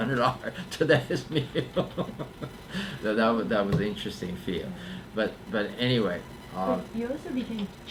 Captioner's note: laughs